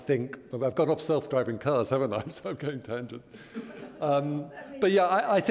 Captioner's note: laughter